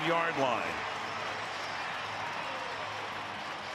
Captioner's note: crowd cheering